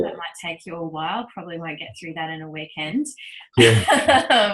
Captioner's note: laughs